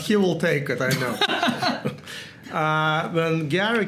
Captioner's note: laugh